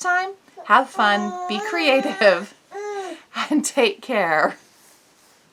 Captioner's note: baby coos in background